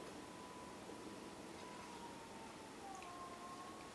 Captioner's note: whirring noise